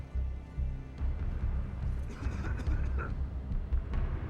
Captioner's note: coughing